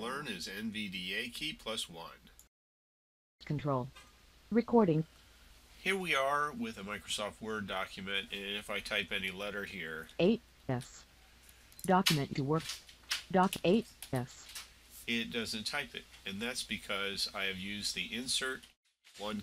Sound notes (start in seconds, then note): 10.3 sound of typing